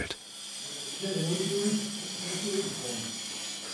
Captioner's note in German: Bohrgeräusche, Stimmen